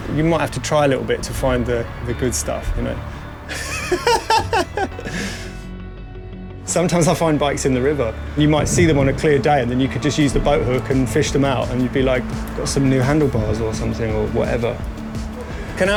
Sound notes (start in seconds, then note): 3.5 laughs